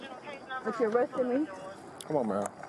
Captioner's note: radio chatter